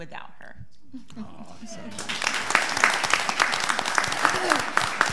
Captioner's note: all applauding